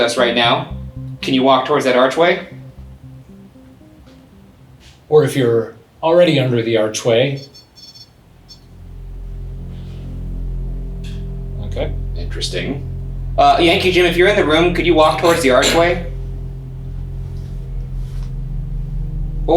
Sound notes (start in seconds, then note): 7.3 REM-pod beeps; 9.1 slow ominous music